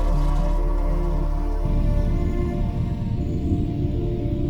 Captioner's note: internal mechanisms working; pod engines burning